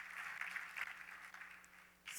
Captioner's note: applause